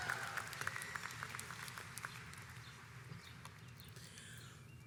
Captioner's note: audience applauds